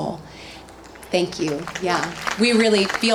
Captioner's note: audience applauds